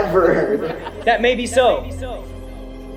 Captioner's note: students laughing